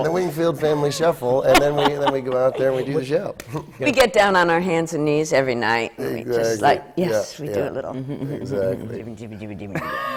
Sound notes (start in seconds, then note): 1.4 laughs